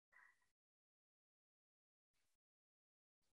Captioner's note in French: silence